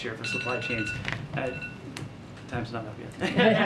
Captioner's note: phone alarm goes off; laughter